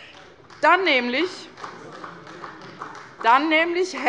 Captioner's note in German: Beifall bei der CDU